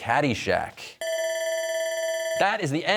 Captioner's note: bell ringing